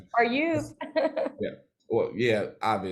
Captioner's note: laughs